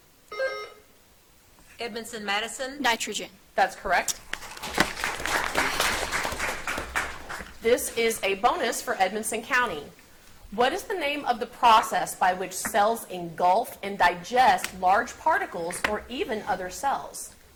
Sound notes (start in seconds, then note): 0.4 buzzer beeps; 4.4 audience applauds